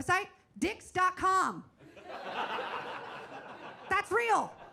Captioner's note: audience laughs